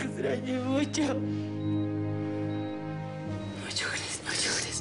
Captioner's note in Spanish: Llorando